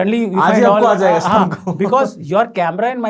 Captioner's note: laughing